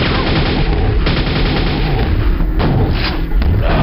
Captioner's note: Double barreled shotgun blasts, still more Shambler lightning